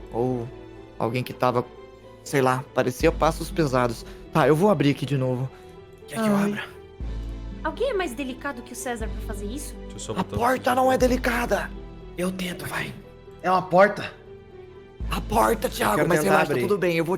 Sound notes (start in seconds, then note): 5.9 whispering; 10.2 whispering; 14.9 whispering